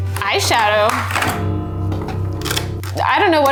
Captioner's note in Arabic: تدق أجراس عميقة